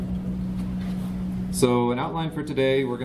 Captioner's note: background chatter